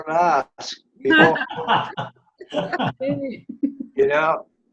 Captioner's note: laughter